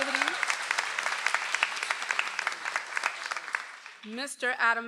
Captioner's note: audience applauds